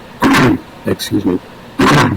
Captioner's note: clears throat